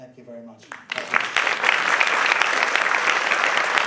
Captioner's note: applause